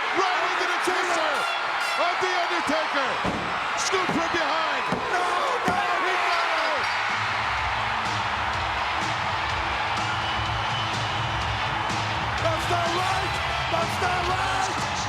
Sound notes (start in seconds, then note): 6.5 bell dinging; 7.1 crowd cheering; 7.1 upbeat rock music